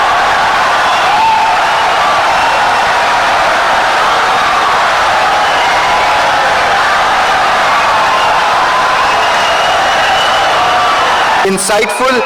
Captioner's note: wild applause and cheering for 17 seconds